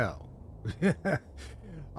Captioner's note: laugh